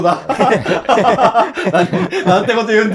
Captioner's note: laughing